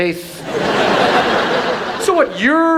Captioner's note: audience laughs